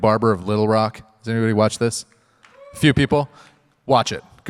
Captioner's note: audience member cheers